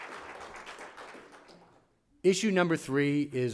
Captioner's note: applause